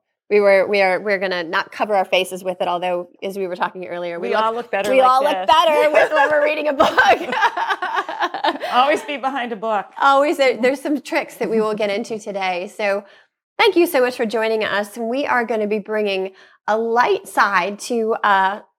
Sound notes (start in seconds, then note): 7.3 laughs